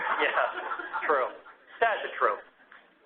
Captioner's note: laugh